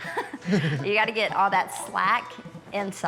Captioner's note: laughing